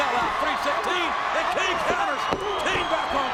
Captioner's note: audience cheers